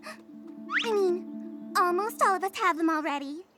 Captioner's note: gasps